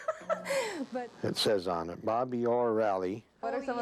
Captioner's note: laughing